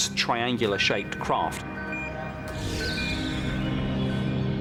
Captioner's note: radar beeping